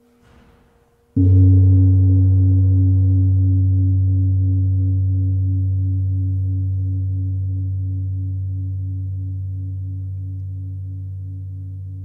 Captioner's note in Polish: gong